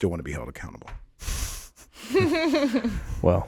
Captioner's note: all giggling